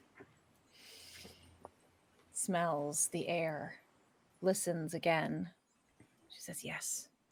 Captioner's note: sniffs